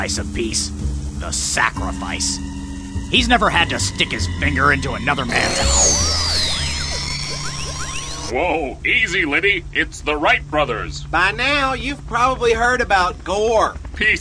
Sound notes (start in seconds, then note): 5.2 static